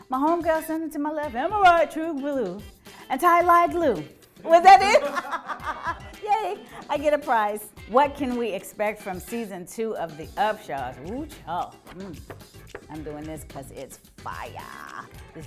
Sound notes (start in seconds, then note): 4.6 Kim laughing; 4.9 man laughing